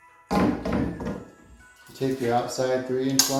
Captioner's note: metal square clangs